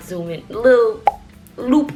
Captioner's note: icon pops